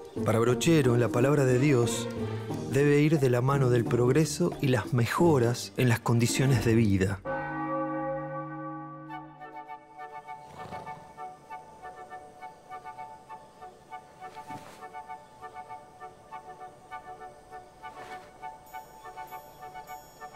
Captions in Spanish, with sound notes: Para Brochero, la palabra de Dios debe ir de la mano del progreso y las mejoras en las condiciones de vida. [Repique de campanas] [Música suave]